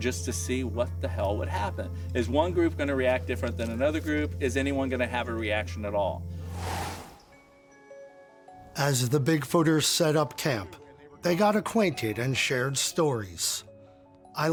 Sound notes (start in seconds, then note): 6.4 air whooshing